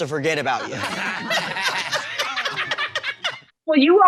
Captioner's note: audience laughing